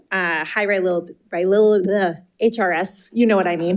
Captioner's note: stammering